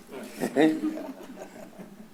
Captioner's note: laughs